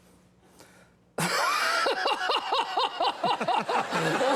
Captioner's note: laughs; Conan laughs